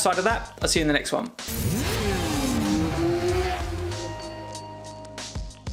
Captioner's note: motorcycle engine roaring; gentle music